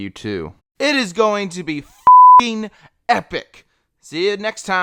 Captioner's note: beep